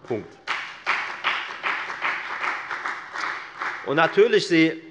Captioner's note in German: Beifall bei der FDP